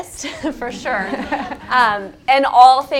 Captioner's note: laugh